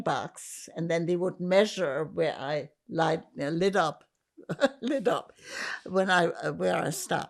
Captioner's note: laughing